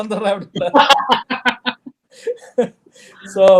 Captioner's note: laughs